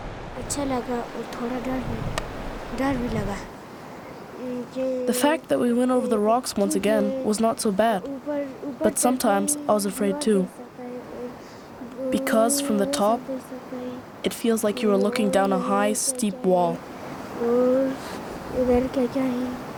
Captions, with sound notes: (speaking foreign language) -: The fact that we went over the rocks once again was not so bad, but sometimes I was afraid too. Because from the top it feels like you are looking down a high steep wall.